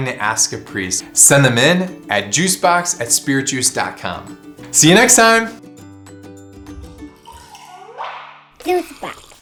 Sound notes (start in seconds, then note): 6.8 juice rushing; 7.4 logo pops